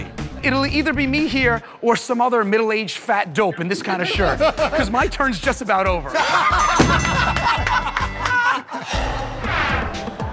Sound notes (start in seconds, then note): 6.0 laughter; 6.7 ding!